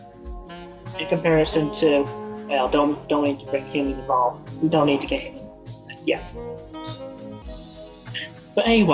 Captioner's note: Belch